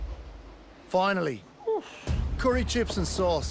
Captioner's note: sighs